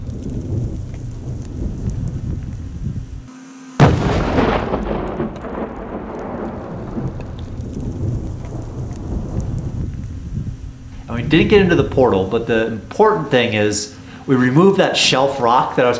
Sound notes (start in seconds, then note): 3.8 explosion